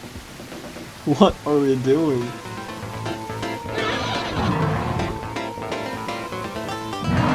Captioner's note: laughing